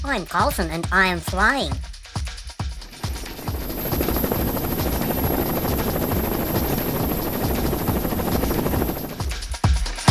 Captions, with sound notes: I'm Carlson, and I'm flying. [sound of Carlson flying]